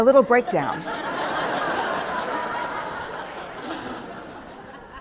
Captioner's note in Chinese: 笑聲